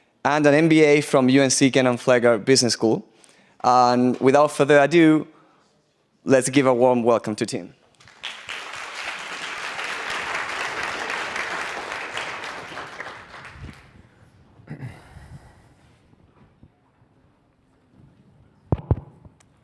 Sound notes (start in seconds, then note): 8.0 audience applauds